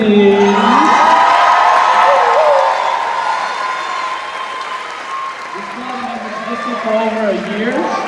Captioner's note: cheers and applause